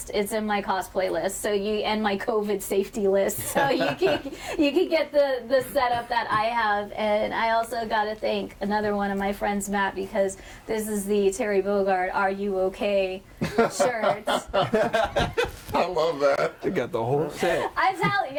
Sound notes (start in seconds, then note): 13.4 laughing